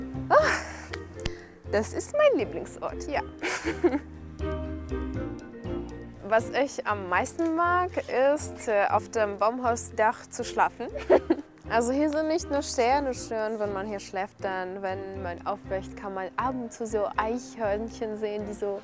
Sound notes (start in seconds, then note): 5.1 dynamic music; 11.0 laughs